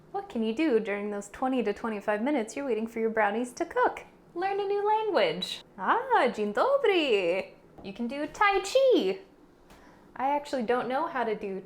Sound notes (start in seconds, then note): none